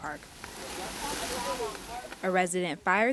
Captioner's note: grill sizzling